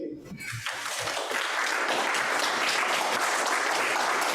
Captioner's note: audience applauds